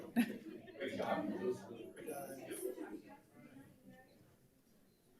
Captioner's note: group chattering